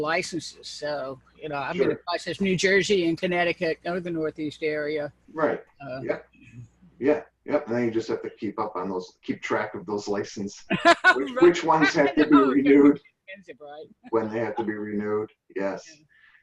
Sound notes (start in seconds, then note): 10.7 laughter